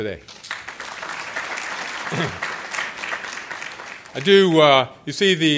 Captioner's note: applause